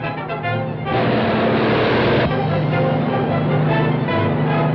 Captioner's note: truck accelerates